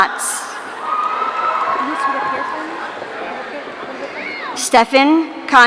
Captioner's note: audience cheering